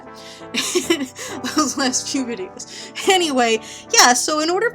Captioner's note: laughs